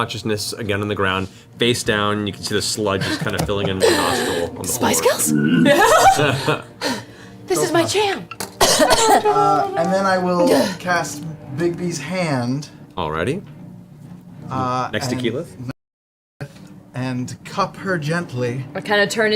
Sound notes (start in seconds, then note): 3.7 gasps